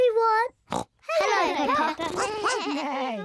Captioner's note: all make animal noises